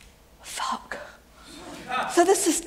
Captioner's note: whispers